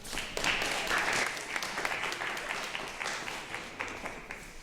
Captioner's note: audience clapping